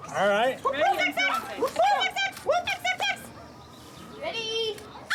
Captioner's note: team making random noises